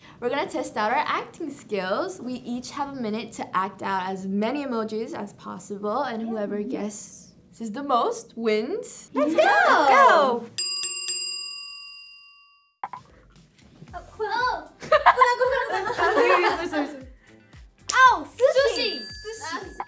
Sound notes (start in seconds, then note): 10.6 bell ringing; 14.8 laughter